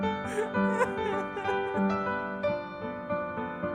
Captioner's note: Anne sobbing